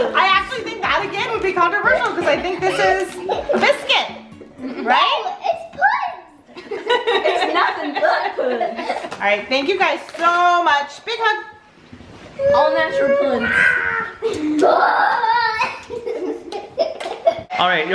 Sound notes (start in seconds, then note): 0.0 kids chuckling; 6.5 laughs; 16.2 laughs